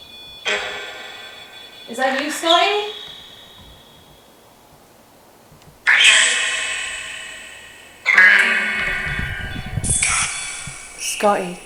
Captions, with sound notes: (beeping) Is that you Scotty? (robotic voice)